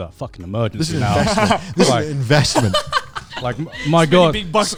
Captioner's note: laughing